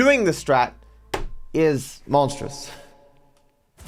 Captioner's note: voice echoes